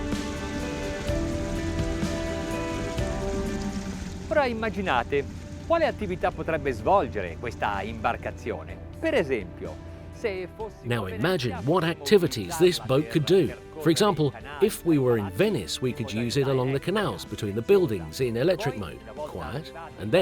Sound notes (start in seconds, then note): 4.6 speaks in foreign language